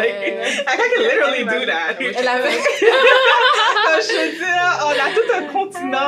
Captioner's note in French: rires